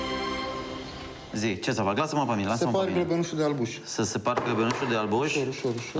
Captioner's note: speaking foreign language